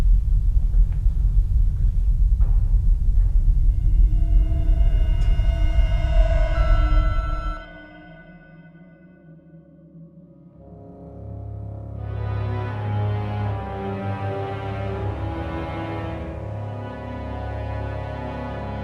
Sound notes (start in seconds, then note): 7.8 terminal beeping